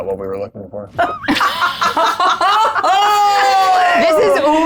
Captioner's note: group laughs